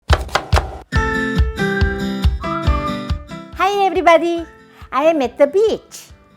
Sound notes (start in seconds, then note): 0.0 chopping and music